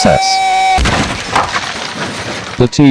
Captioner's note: crash!